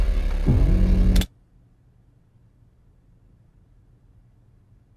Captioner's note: keyboard clacks